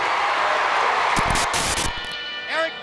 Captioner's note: crowd cheering; static crackling; graphics hissing